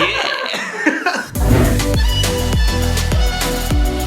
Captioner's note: laughter